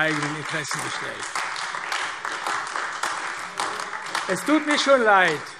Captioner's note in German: Beifall AfD